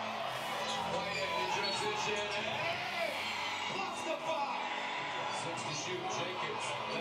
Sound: cheering; announcer yelling

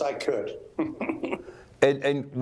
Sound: laughs

